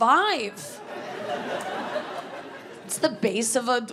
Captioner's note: audience laughing